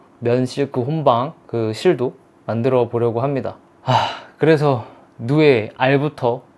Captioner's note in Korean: 한숨